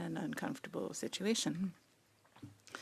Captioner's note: speaking French